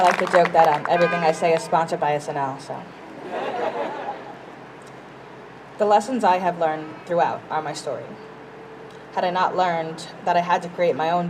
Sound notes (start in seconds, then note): 3.1 crowd laughs